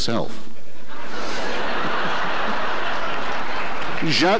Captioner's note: audience laughter